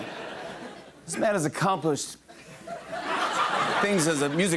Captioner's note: laughter